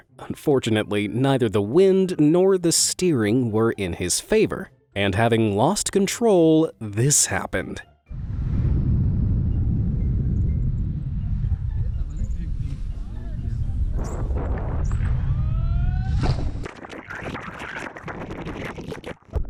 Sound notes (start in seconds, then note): 8.1 air whooshing; 16.7 water rippling